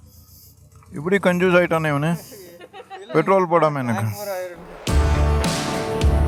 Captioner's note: laughter